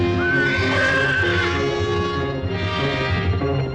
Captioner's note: horse neighing